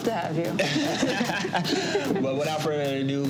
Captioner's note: both laugh